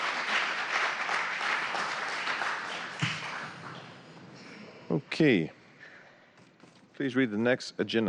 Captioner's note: applause